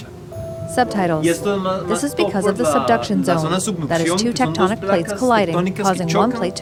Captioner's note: speaking a foreign language